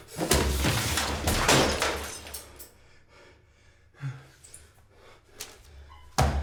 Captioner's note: crashing